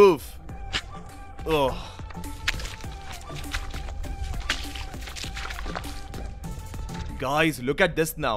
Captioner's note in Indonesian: Suara berjalan